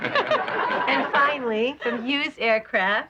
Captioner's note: laughing